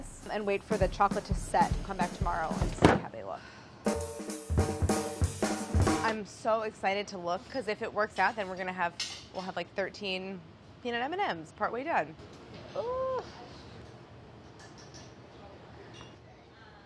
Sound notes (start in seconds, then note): 3.2 sighs; 3.8 upbeat drum beat